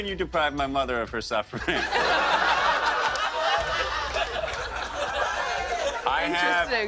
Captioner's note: laughter